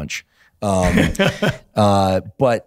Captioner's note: laughs